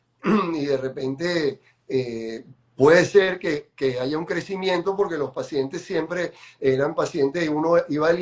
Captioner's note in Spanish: carraspeo